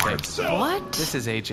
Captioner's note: crushes a can